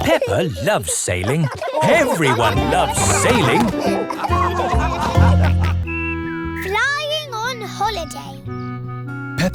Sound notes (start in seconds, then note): 4.5 all laughing